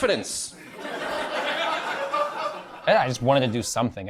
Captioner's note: crowd laughs